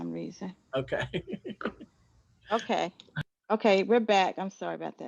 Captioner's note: laugh